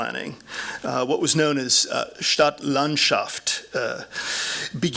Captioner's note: speaking german